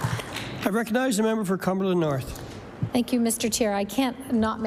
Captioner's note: applause